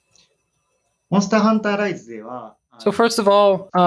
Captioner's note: speaking japanese